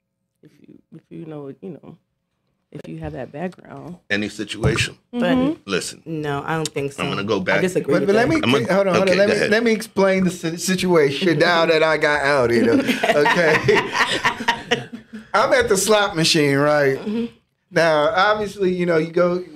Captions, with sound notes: If you have that background. - Any situation. Listen. - No, I don't think so. - I'm gonna go back. - I disagree with that. - But let me, hold on, let me explain the situation now that I got out, you know. Okay. (laughing) I'm at the slot machine, right? Now, obviously, you know,